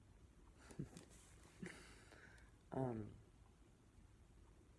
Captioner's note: she chuckles